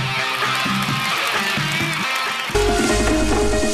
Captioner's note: applause